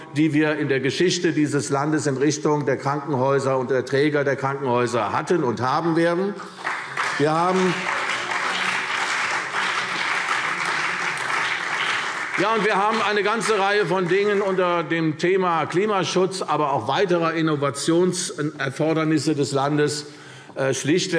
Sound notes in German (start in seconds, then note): 6.4 Beifall CDU und BÜNDNIS 90/DIE GRÜNEN - Zuruf DIE LINKE